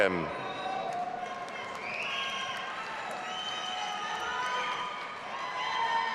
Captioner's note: audience applauding and cheering